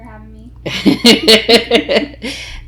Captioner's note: laughing